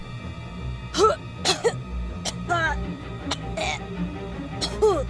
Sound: cough

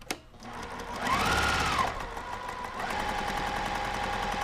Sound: sewing machine humming

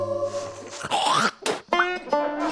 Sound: ethereal vocalizations; spits

